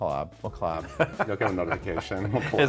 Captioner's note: Christian laughing